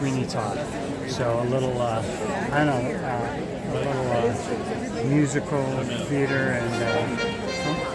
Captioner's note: horn Blows